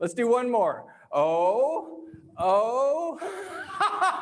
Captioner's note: laughs